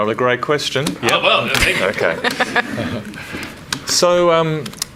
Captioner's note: laughs